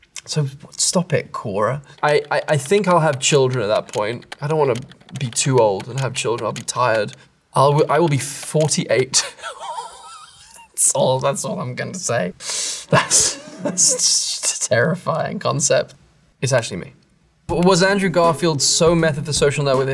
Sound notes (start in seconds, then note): 9.2 laughs; 12.9 chuckles